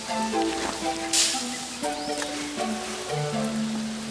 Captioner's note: leaves rustle